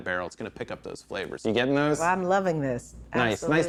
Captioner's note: none